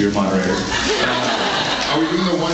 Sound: laughs

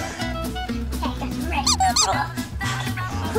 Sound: assistant gasping; muscles squeaking; assistant gasping

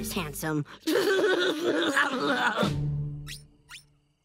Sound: giggling

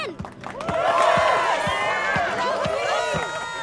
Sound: cheering

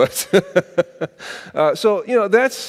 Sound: laughing

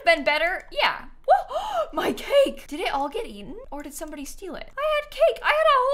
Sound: gasps

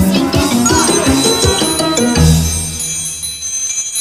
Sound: bell ringing

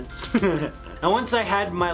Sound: laughing

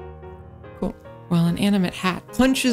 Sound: soft voice; normal energetic voice

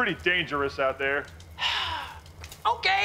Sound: sighing

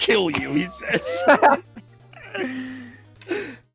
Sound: Trog and Gir laugh

